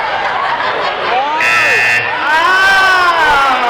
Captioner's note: buzzing